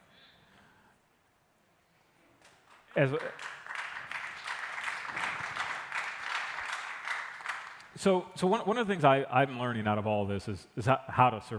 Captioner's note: applause